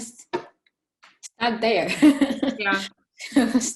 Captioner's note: giggling